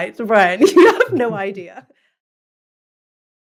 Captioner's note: laugh